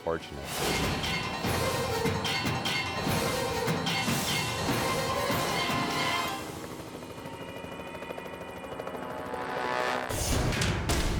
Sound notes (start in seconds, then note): 0.2 tense music; 6.0 helicopter rotor whirring; 9.8 graphics whooshing